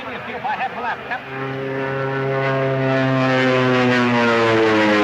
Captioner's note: airplane buzzing